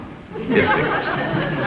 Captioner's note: audience laughs